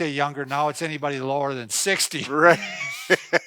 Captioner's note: laughing